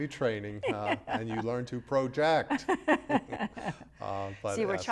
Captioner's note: both laughing